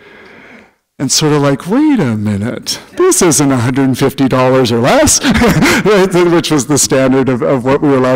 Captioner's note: laughter